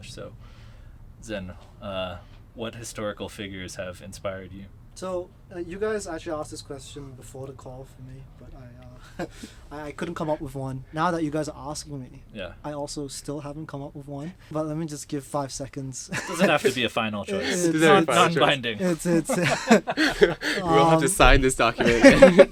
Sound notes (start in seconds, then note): 18.8 both chuckling